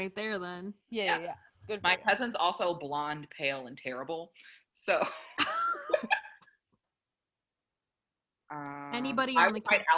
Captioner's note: laughter